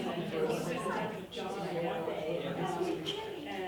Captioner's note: chattering